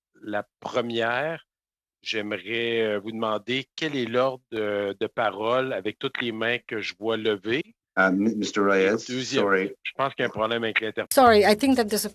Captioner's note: speaking French